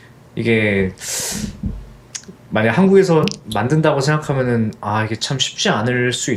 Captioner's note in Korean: 콧방귀